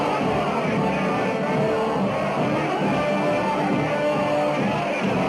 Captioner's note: all shouting